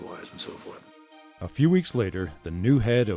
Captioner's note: voiceover